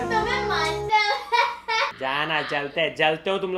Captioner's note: mocking